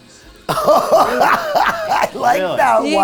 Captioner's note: laughing